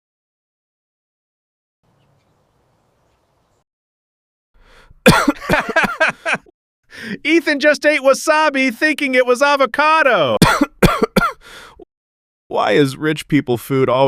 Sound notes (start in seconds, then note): 5.1 laughter; 10.3 coughing